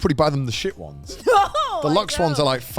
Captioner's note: hosts laugh